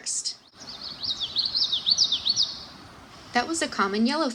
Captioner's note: Common Yellowthroat singing